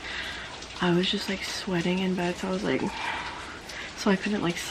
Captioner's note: disgruntled noise